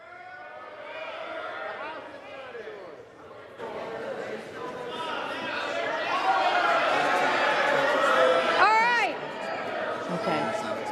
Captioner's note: Republicans yell